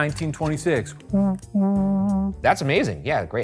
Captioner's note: imitating ship horn